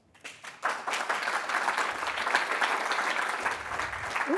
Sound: audience applauding

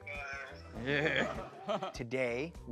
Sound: laughter

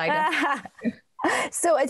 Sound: chuckles

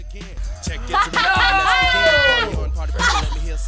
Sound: laughs

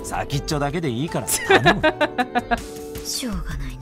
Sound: chuckles

